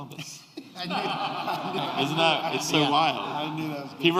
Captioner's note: laughter